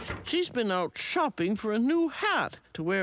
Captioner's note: door clicks